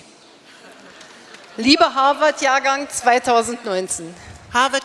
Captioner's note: speaking in German